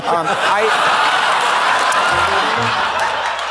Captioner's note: audience laughs